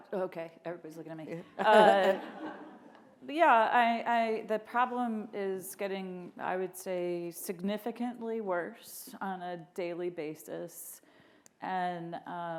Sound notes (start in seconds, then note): 1.6 all laughing